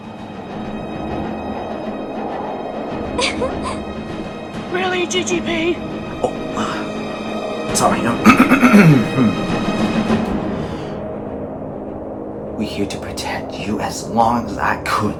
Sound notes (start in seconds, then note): 11.7 ahem